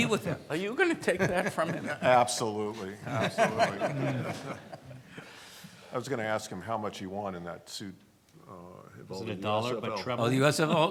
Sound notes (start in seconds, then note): 3.0 laughs